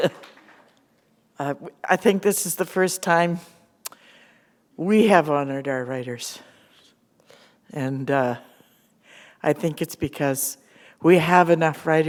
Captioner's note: chuckle